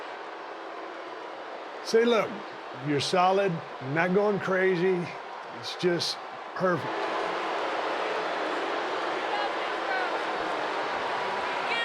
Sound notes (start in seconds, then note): 7.5 crowd continues cheering